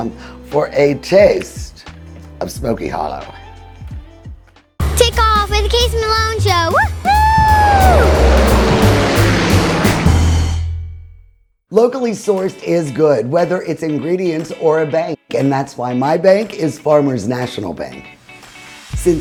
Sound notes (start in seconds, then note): 7.8 propellers whirling